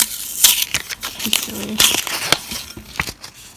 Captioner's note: paper label rustling; paper peeling